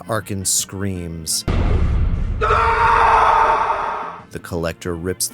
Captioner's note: screaming